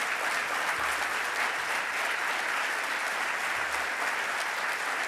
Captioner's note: audience clapping